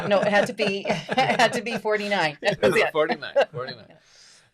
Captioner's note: laughs